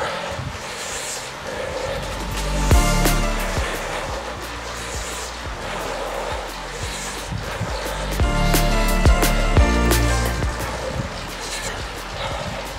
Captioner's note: sighs